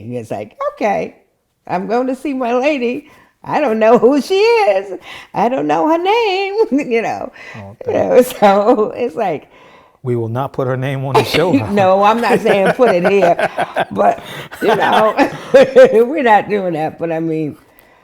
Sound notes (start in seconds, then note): 8.4 laughing; 13.6 laughing